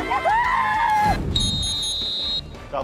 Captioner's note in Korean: 호루라기 소리